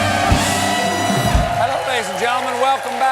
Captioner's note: cheers and applause